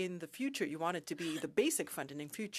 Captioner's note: speaking French